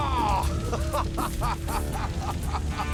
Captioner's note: laughing